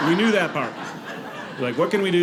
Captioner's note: audience laughing